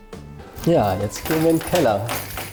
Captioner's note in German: Schlüsselklirren